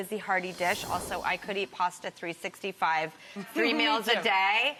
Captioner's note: screen whooshing